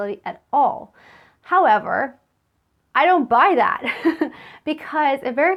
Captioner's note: laughs